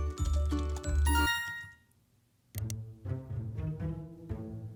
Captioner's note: notification chime